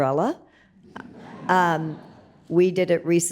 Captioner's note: audience laughs